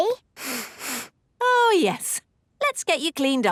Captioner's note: sniffs